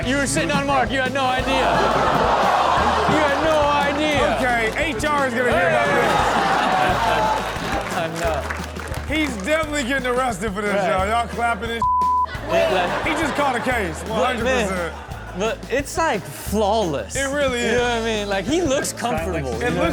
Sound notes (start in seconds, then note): 1.9 crowd laughing; 7.4 audience laughs; 11.8 beep; 12.2 crowd laughing